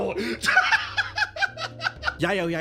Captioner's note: laugh